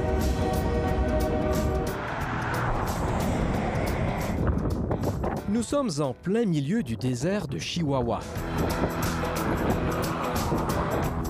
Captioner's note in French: sifflement de train